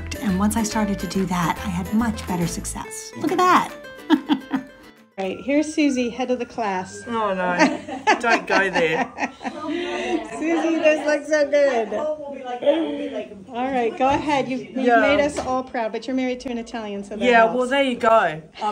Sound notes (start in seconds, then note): 4.0 chuckles; 12.2 people chattering